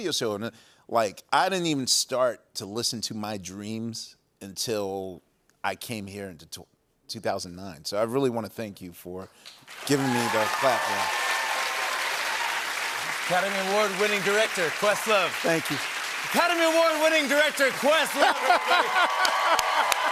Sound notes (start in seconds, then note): 11.1 cheers and applause